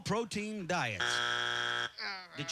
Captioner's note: buzzer